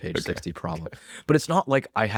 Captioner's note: laughs